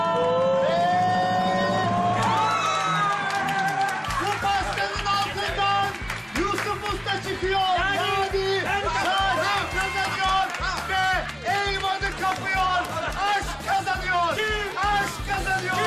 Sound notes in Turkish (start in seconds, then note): 2.2 Sevinç çığlıkları